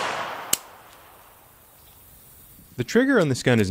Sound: clicking

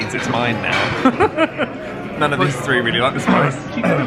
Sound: laughs

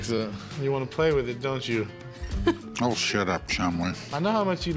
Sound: chuckles

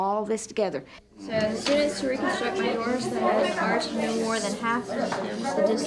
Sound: children talking about their project

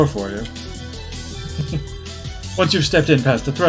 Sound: chuckles

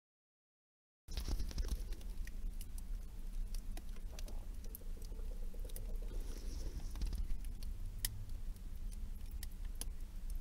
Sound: freezer crackling

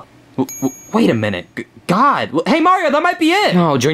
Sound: bell dings

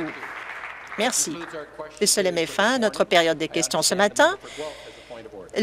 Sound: applause

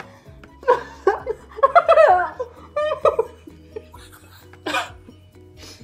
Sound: laughing

